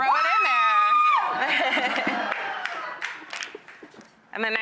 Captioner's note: yelling